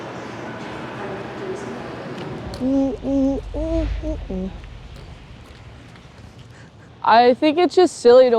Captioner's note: humming